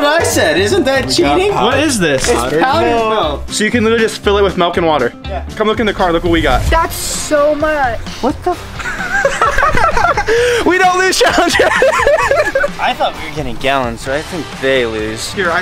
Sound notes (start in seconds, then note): 8.8 boys laughing; 11.2 laughs